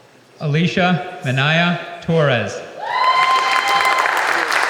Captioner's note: applause